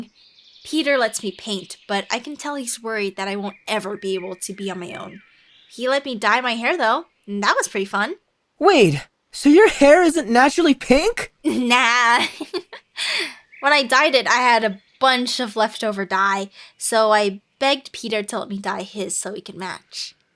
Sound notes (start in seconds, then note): 12.7 laughs